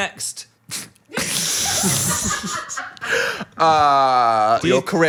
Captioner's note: everyone laughs